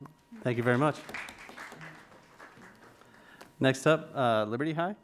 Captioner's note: crowd claps